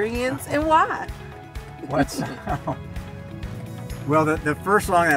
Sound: laughs

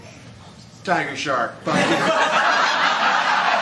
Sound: laughter

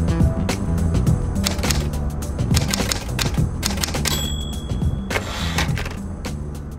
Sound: sound of typing

